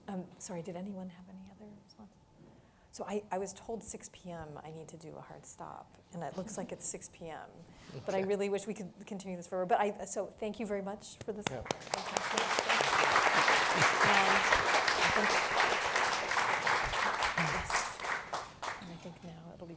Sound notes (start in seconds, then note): 11.4 applause